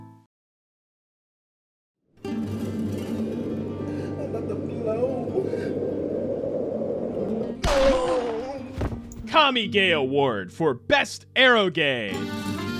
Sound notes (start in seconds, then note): 7.6 bang